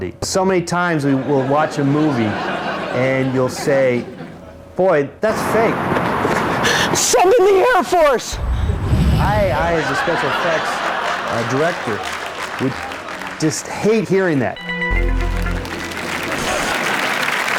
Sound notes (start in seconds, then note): 8.2 planes whooshing; 14.8 loud applause from the audience